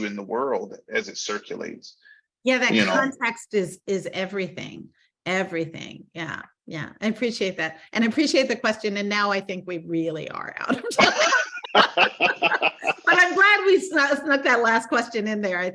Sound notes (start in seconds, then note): 10.7 laughing